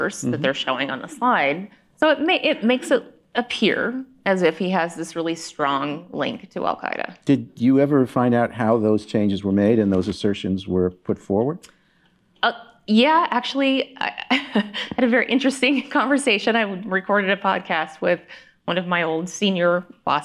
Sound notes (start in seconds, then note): 14.5 chuckling